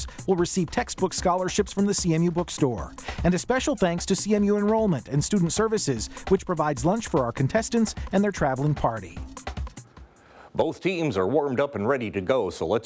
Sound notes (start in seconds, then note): none